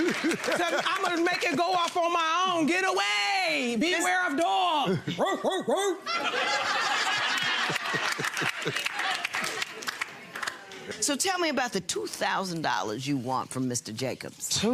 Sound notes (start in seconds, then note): 4.7 barks; 5.9 audience laughs; 6.9 laughs